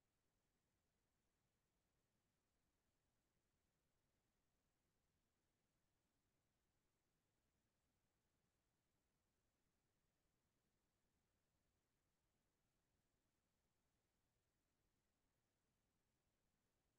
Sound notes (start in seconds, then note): none